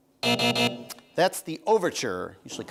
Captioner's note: buzzing